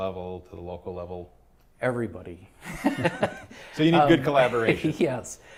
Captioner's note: laughter